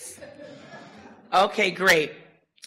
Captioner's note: audience laughter